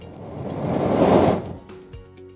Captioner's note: flame ignites